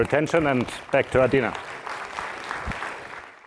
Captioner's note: applause